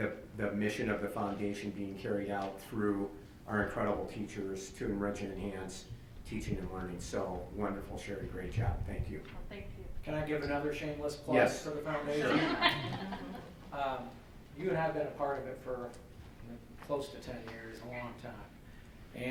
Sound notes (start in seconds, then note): 12.2 laughs